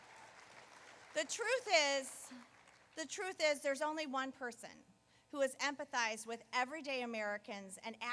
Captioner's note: applause